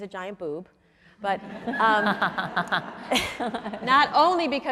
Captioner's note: audience laughs